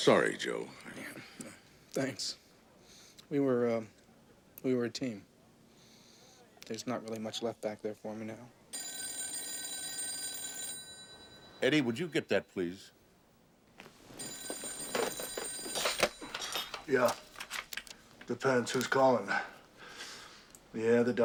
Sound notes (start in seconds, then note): 8.7 telephone rings; 14.2 ring